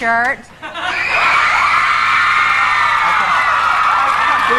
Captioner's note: audience cheering